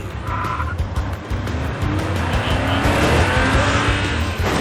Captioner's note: engine revs